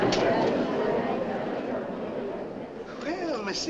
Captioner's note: crowd murmurs